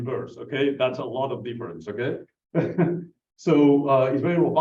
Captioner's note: laughs